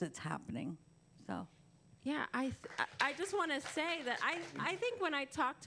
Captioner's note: applause